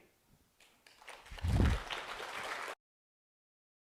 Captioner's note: clapping